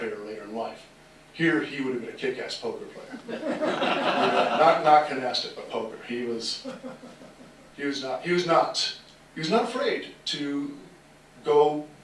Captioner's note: laughter